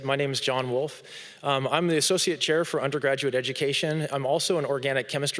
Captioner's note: none